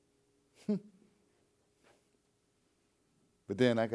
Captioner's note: chuckles